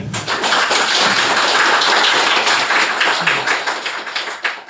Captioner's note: applause